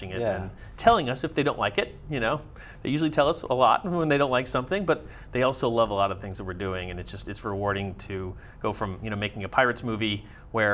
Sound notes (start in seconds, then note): none